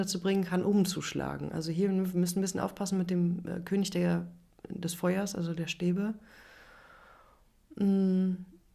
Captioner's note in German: seufzt